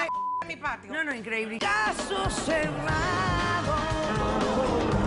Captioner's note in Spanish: Bip